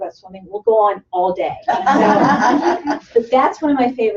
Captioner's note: laughter